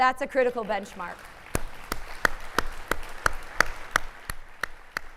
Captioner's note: applauding